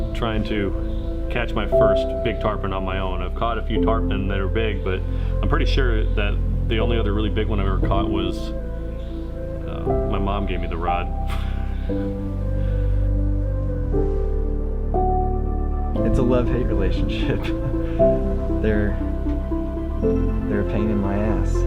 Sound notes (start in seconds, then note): 11.3 laughs; 13.1 mellow music